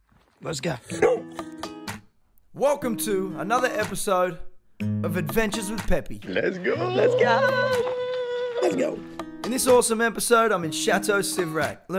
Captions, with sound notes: Lets GO! Welcome to another episode of adventures with Peppi (excited voice) Lets GO! in this awesome episode i'm in Chateau Civrac